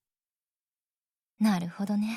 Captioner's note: silence